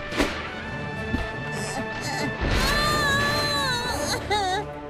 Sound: screams

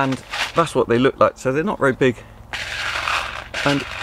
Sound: beans rattling

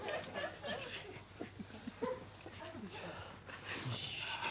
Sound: soft shushes

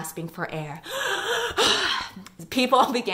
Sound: gasping sound

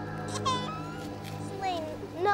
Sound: baby crying

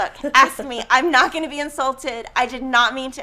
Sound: laughing

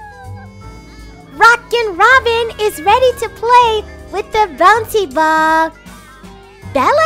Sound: kids outdoor ambiance

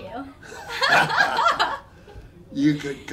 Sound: both laughing

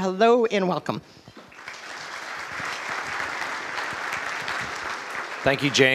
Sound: applause

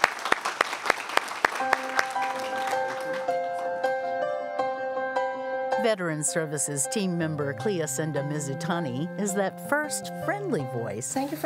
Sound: applause

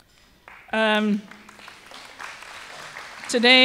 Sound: applause

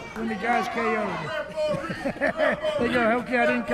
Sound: laughs

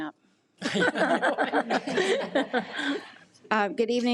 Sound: laughs

